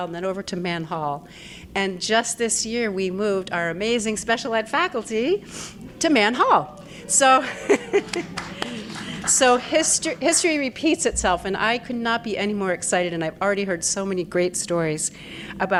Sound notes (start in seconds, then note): 7.6 audience applauding